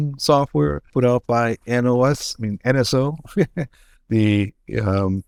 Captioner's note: laughs